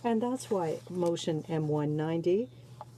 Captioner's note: speaking French